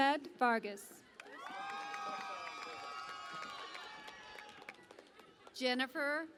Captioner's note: cheering and Applause